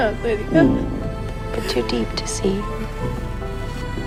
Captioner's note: voiceover